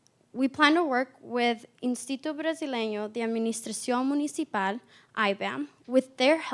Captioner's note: spanish